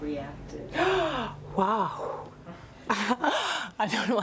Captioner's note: gasping